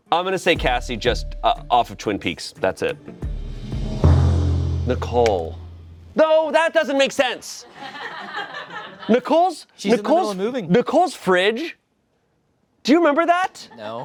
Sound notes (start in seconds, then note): 3.2 intense music; 7.6 friends laugh